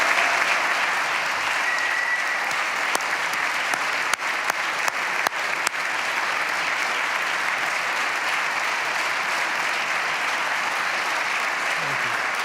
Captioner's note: applause